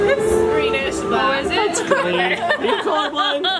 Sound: laughs

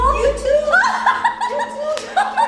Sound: laughing

